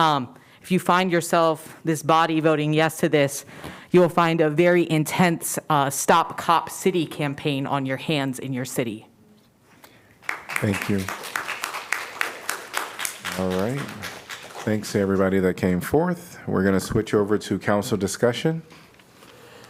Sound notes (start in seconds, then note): 10.2 applause